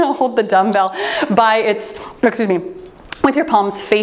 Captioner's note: timer beeps